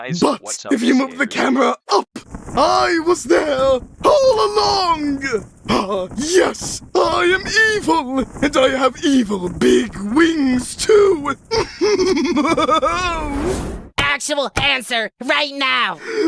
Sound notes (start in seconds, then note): 11.4 evil laughter